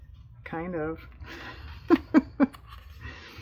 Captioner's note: laughs